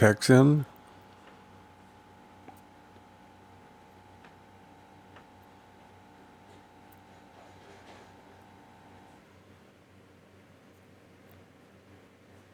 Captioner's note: silence